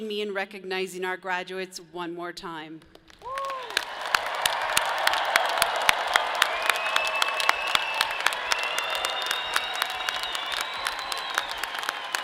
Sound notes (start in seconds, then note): 4.0 audience claps; 5.7 people cheer; 8.1 people whistle